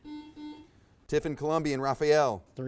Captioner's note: buzzer buzzes